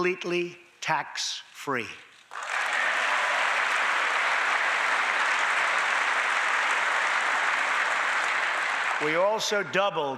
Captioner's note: applause